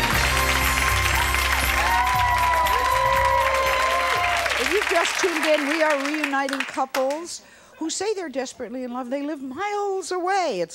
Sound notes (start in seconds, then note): 0.0 cheering